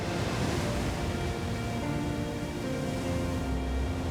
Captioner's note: waves crashing